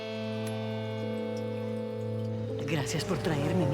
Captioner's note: tinging of metal